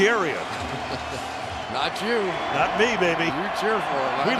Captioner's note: laughs